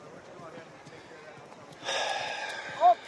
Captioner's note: sighs